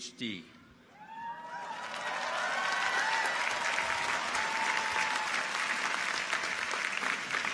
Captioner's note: people cheer; audience applauds